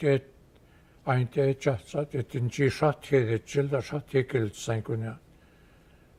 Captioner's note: speaking Gwich'in